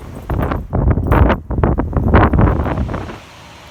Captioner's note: wind blowing